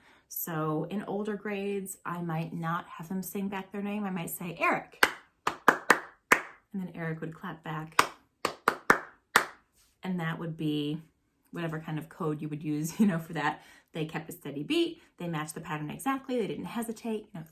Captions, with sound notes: So in older grades I might not have them sing back their name. I might say, Eric (clapping: ta ti-ti ta ta) Then Eric would clap back (clapping: ta ti-ti ta ta) And that would be whatever kind of code you would use for that. They kept a steady beat, they matched the pattern exactly, they didn't hesitate.